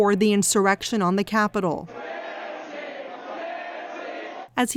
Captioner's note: crowd chanting